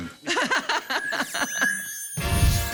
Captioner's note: laughs; jazzy music